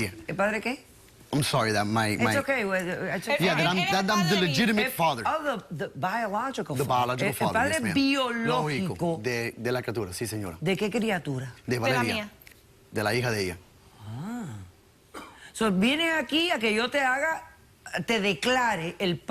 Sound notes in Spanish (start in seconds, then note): 7.2 en inglés